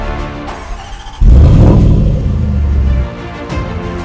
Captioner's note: car engine starts